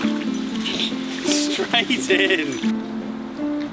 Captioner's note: laughing